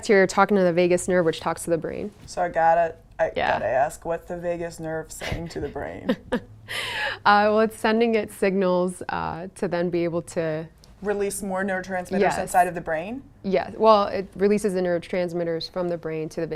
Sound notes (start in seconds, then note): 5.2 laughter